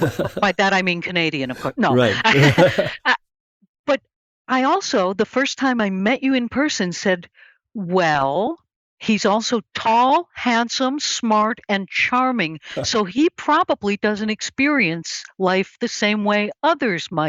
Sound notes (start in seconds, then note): 0.0 laughs